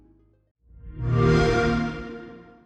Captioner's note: xbox sound